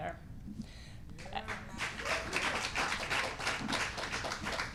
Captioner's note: applause and clapping